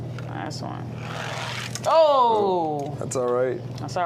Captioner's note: toy car grating